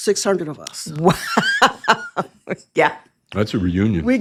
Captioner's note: laughs